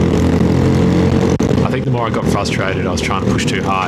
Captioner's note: engine noise